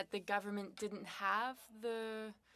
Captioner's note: speaking French